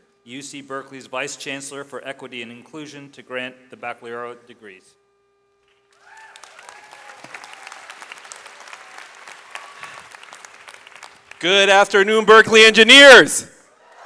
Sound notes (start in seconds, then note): 6.0 audience applauds; 13.8 audience cheers